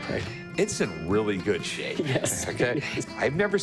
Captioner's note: laughs